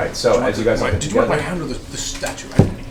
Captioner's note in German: Gelächter